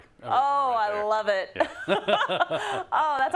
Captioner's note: laugh